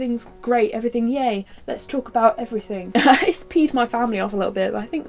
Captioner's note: laughs